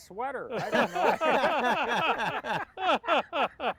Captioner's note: laughing